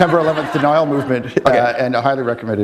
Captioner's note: laughter